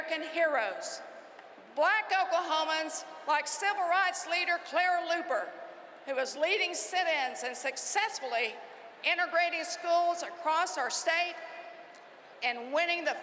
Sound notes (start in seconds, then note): none